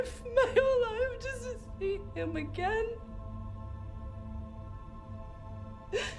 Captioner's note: sobs